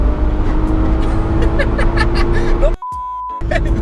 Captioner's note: laughs